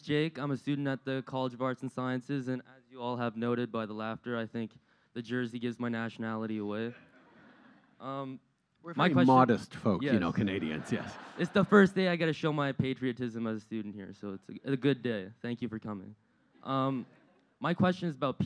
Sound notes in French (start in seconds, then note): 10.2 Rires